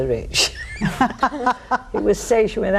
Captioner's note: all laughing